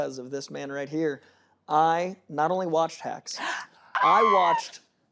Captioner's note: screams